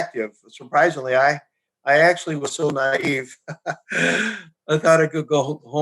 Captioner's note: chuckles